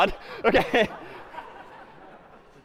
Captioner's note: laughter